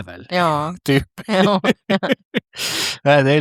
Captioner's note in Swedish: skratt